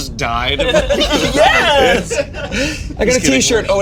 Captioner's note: all laughing